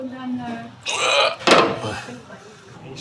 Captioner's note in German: Stöhnen